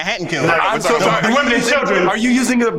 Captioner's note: overlapping chatter